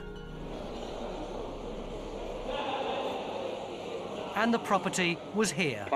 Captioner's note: people chattering